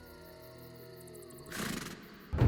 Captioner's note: horse snorts